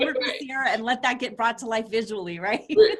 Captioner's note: laughs